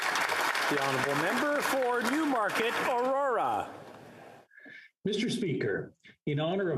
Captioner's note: applause